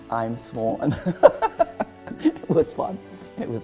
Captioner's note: laughter